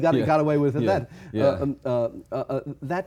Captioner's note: chuckles